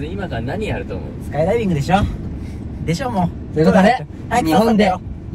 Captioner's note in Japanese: めんどくさそうに